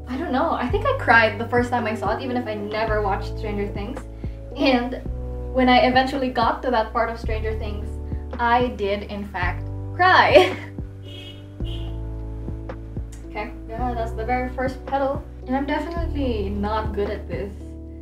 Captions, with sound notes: I don't know. I think I cried the first time I saw it, even if I never watched Stranger Things. And when I eventually got to that part of Stranger Things, I did, in fact, cry. [chuckles] [jeep horn honking in the background] Okay, that's the very first petal. I'm definitely not good at this.